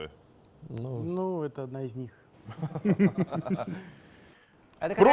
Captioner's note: laugh